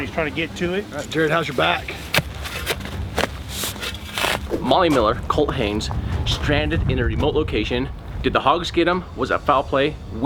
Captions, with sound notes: and he's trying to get to it. - Alright, Jared, how's your back? (sound of shoveling) - Molly Miller, Colt Haynes, stranded in a remote location. Did the hogs get them? Was there foul play?